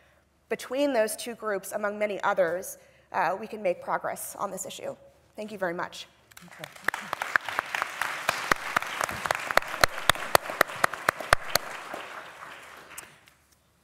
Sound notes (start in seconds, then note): 6.3 applause